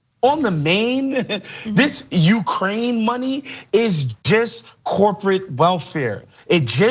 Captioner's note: laugh